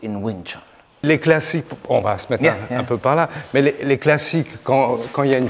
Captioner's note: speaks French